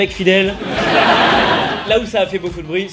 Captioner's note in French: rires